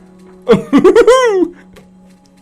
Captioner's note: tigger laugh